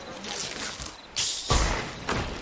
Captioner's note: SFX: bottle opening